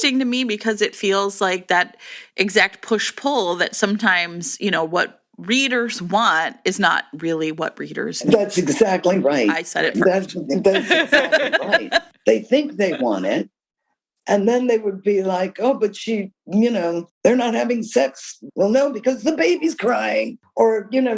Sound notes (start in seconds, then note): 10.7 laughter